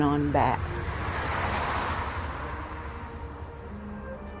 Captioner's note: sound of car on highway